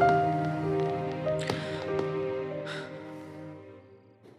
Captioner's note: Sighs